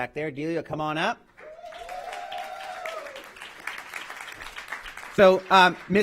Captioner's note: applause